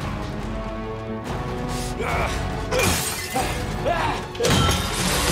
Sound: grunting

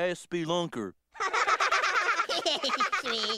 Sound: all laughing

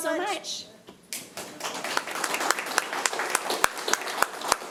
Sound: applause

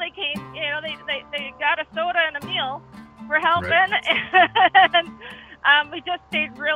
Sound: chuckles

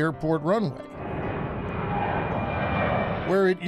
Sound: plane rumbling

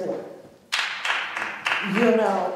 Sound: clapping

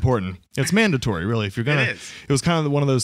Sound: laughs

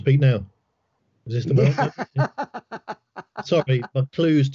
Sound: laughs

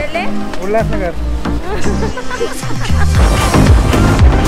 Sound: laugh

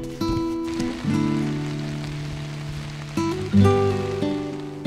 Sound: rain pattering

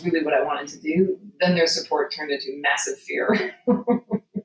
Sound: laughing

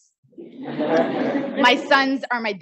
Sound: audience laughing

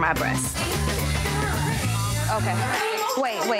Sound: buzzing

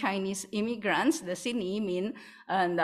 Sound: non-english

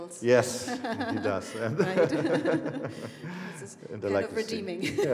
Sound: both laughing

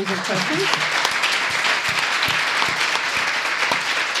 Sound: applause

